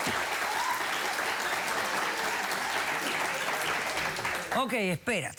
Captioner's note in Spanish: aplausos